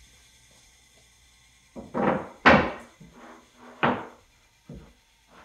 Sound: plywood thudding

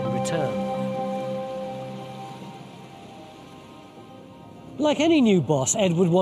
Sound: water whooshing

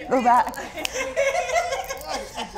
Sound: all laughing

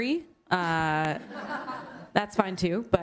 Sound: laughter

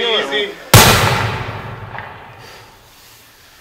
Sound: gunshot

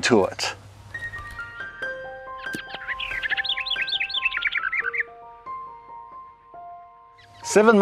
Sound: gentle music; birds chirping

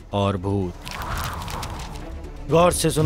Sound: pages rustle and blow

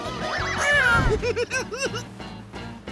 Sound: giggling

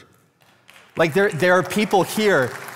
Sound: congregation applauding

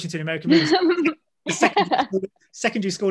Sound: Hannah and Elisha laugh

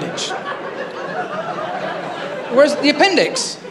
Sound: laughter

